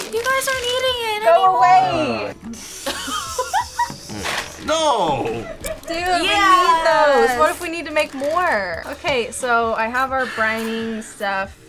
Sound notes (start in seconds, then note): 2.8 laughs